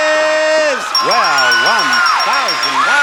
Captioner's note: bell dinging; squealing